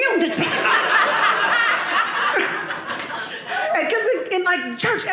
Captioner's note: audience laughing